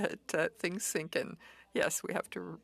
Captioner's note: speaking French